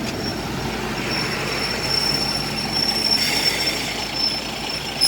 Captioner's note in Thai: รถไฟกำลังเบรค